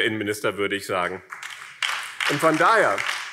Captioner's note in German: Beifall BÜNDNIS 90/DIE GRÜNEN